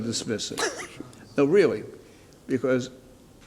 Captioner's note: laughs